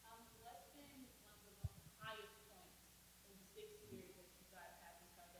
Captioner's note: audience speaking faintly